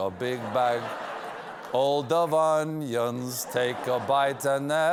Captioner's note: laughter